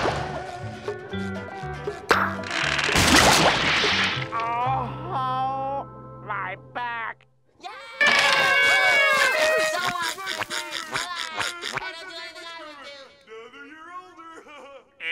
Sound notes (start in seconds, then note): 4.2 groaning; 8.0 cheering